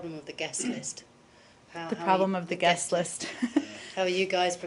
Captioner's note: laughter